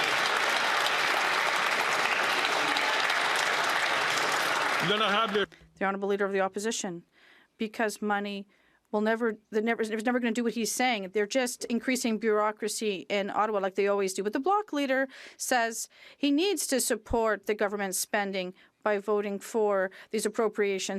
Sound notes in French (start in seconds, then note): 6.1 applaudissements